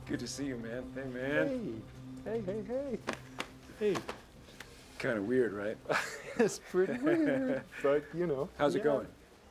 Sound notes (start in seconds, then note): 5.8 chuckles